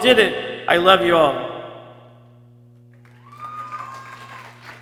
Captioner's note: people cheering